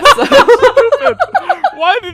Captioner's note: laughing